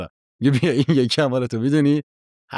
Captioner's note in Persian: خنده